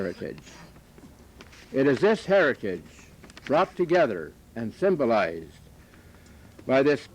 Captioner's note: none